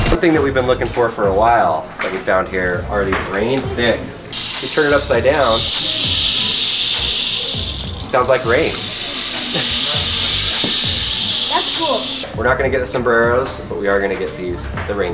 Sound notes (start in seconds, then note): 4.4 pebbles falling